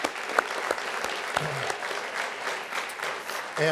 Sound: applause

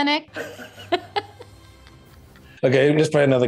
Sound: both laugh

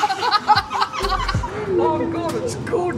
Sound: both laughing

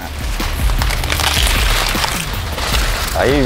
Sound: corn stalks breaking

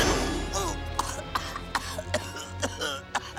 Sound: coughing

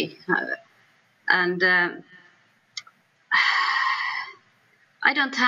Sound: sighs

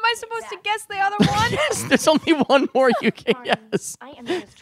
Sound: laughing

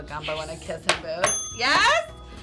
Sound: bell dings

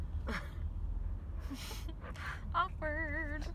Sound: giggling

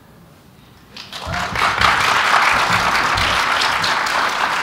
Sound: applause

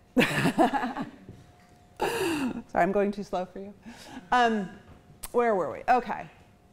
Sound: chuckles

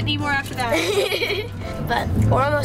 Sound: laughs

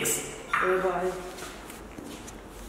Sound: in Nepali

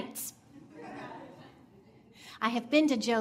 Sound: audience laughing

